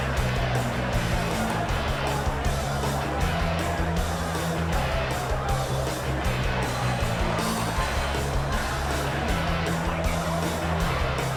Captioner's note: crowd chatter